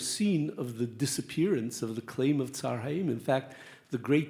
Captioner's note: speaks Hebrew